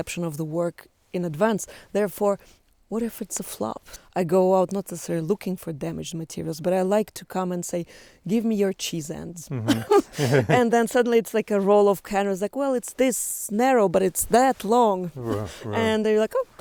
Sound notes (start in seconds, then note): 9.4 laughs